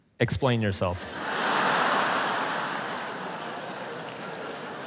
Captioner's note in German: Publikum lacht